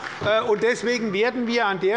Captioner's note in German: Beifall bei Abgeordneten der SPD und der LINKEN